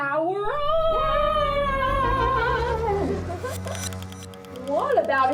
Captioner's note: Leo and Lily yelling